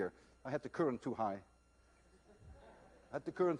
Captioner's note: laughter